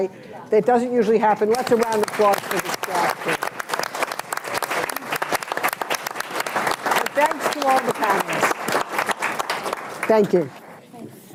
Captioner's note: applause